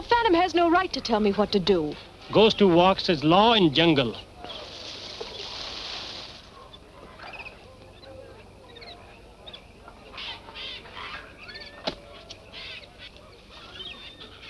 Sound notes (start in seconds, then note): 4.8 birds chirping